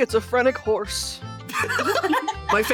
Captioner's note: laughing